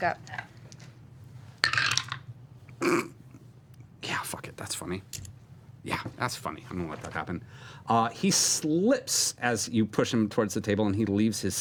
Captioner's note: snorts